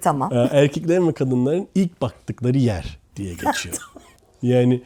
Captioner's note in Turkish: kahkaha